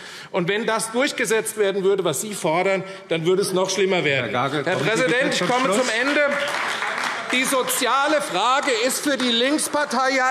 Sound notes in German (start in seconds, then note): 5.2 Beifall AfD